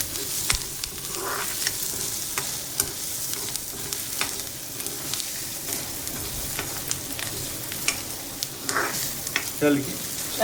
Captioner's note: onions sizzling as they sweat